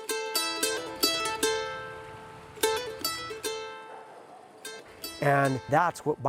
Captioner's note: running water